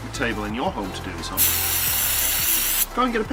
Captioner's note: spray can